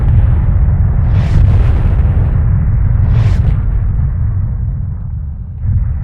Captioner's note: explosion